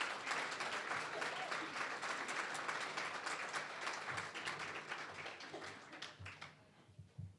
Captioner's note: applause